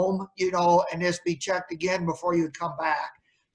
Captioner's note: none